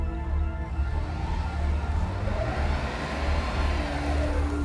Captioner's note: engine revs